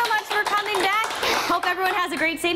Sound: applause

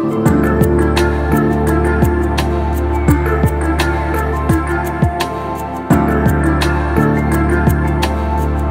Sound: humming

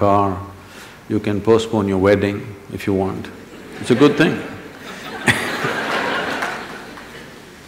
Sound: laughter

